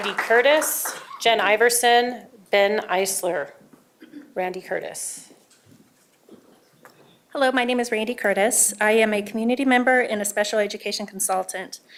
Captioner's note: applause